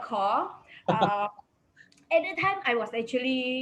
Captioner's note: man laughs